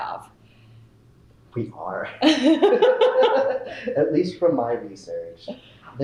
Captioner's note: laughter